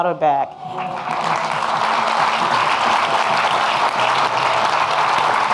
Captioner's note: audience clapping